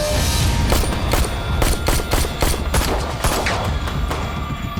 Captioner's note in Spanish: Disparos